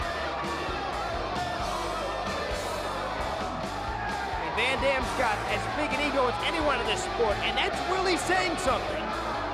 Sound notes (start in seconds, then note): 1.5 crowd chattering